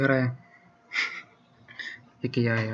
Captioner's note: Smijecja